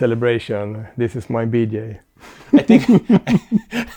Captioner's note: laughter